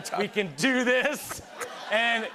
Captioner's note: laughter